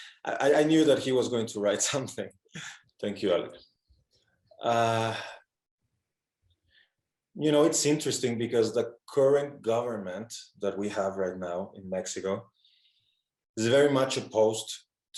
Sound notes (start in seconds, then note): none